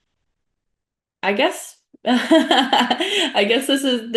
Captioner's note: laughing